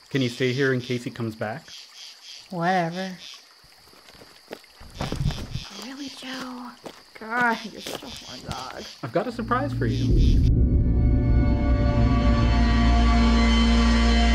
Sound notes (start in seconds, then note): 3.8 foosteps crunch; 11.4 sinister music